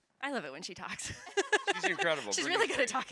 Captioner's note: all laughs